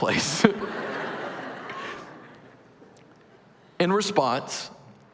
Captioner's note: laughter